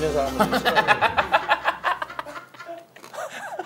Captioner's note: laughing